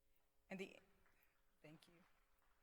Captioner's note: applause